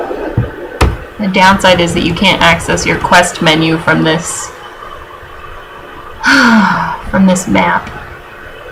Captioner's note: heavy sigh